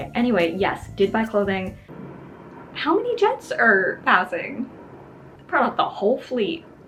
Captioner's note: plane noise returns